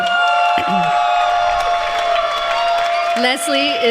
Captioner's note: applause